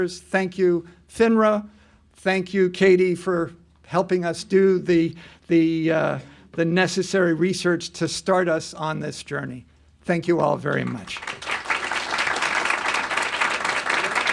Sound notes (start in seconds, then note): 10.6 applause